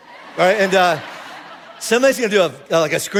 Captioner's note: congregation laughing